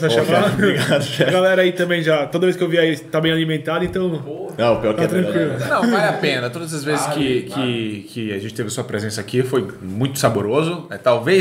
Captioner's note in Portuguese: risos; risos